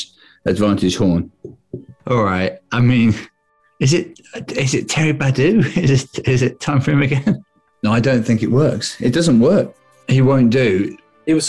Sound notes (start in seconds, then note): 5.6 laughing